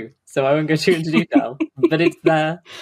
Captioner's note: laughs